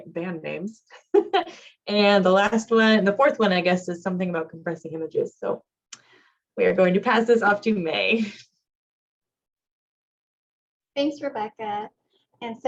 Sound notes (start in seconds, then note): 0.9 laughter